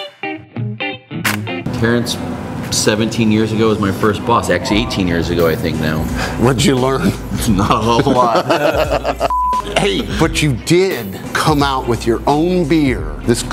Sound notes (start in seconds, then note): 0.0 funky music; 8.7 both laugh; 9.2 beep